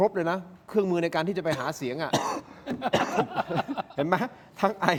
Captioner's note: laughs